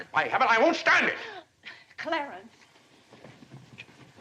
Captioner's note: gasps